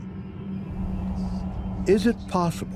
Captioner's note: whispering